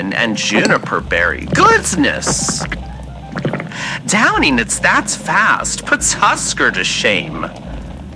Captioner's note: listener gulps down gin fx